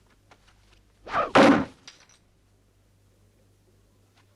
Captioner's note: knife plunks